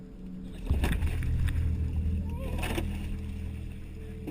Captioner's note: water splashing